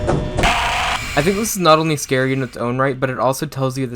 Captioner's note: jumpscare SFX through phone